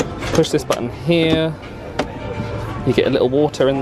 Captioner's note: button clicks